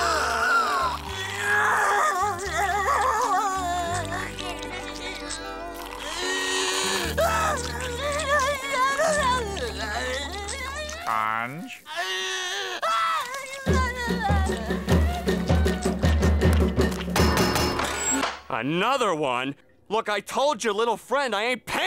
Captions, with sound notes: [crying] [crying] Sponge? [crying] [banging] Another one? Look, I told your little friend, I ain't paying for that.